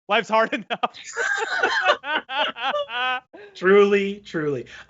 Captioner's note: laughing